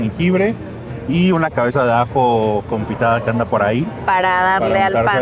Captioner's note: speak in Spanish